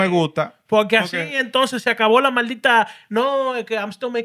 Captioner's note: speaking Spanish